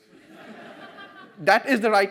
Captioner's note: audience laughs